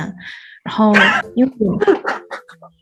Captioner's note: sudden laugh